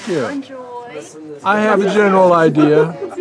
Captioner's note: voiceover